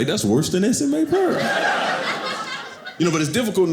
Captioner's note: audience laughing